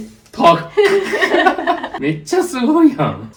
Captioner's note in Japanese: 笑い